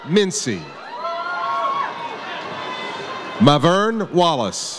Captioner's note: audience cheers